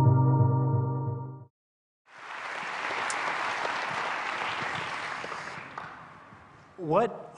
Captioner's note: intro Music; applause